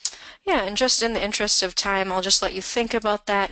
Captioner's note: voiceover